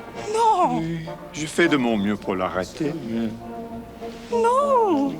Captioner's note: John speaks French